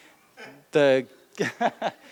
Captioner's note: laughs